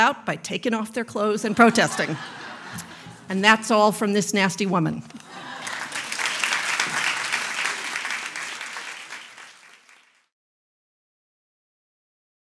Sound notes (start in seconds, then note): 1.4 audience laughs; 5.1 audience laughs and applauds